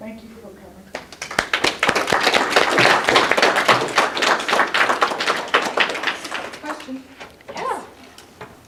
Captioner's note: applause